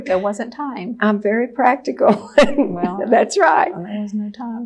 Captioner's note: laughs